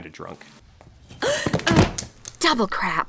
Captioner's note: falling noises